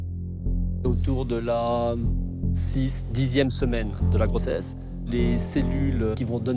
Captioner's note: speaks in foreign language